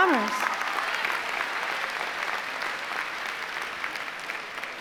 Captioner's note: applause